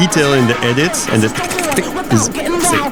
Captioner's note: crapid clicking sounds